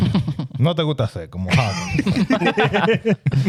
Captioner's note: speaking Foreign Language; laughing